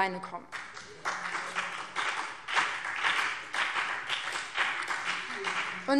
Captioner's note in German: Beifall BÜNDNIS 90/DIE GRÜNEN